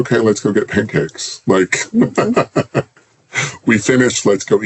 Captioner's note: laughs